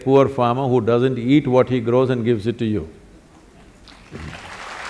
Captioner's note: applause